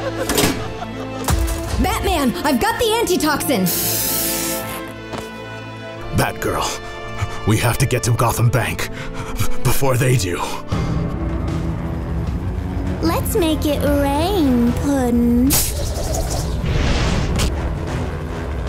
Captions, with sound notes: - Batman, I've got the antitoxin! - Batgirl, we have to get to Gotham Bank, before they do. - Let's make it rain, puddin'. (wire zips)